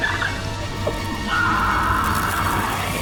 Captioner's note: aahhhhhhhhhhhhhhh